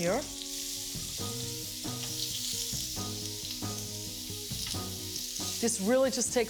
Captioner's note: halloumi sizzling